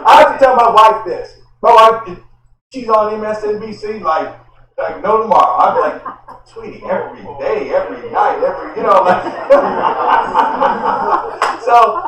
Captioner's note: laughter